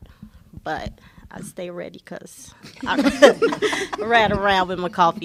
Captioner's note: laughter